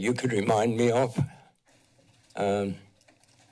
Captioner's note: pause